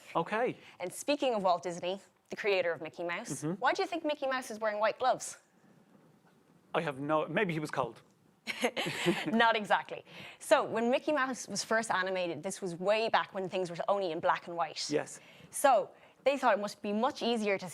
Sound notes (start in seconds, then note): 8.5 both chuckles